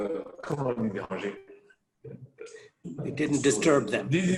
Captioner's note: speaks foreign language